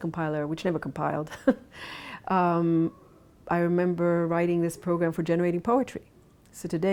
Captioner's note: laughs